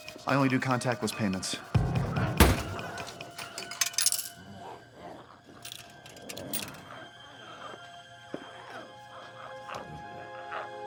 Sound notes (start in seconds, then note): 3.4 quarter rattles